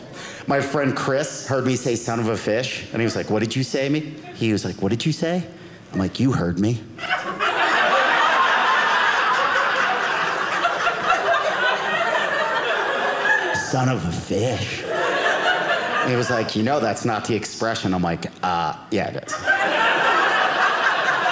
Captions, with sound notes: My friend Chris heard me say son of a fish. And he was like, "what did you say to me?" He was like, "what did you say?" I'm like, you heard me. (audience laughing) Son of a fish. And he was like, "you know that's not "the expression?" I'm like, yeah it is.